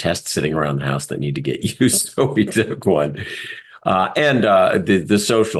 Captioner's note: laugh